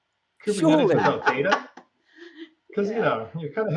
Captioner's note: laughs